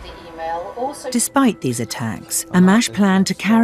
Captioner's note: voiceover